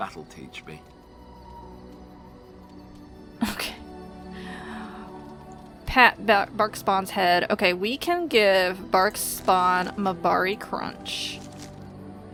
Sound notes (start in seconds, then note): 3.4 laughs